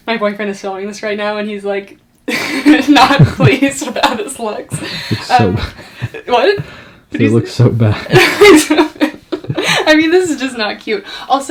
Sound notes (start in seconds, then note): 2.3 laughs; 7.6 laughs